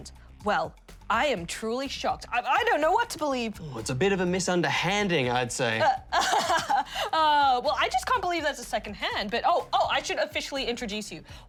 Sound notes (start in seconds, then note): 6.0 laughs